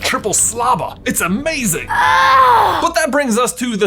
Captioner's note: Ron groans